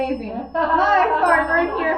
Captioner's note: group laughs